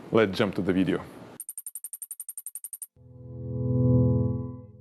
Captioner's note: clicking transition